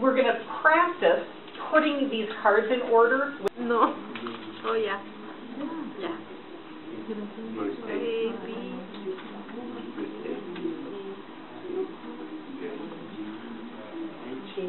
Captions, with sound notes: - We're going to practice putting these cards in order. (quiet murmuring)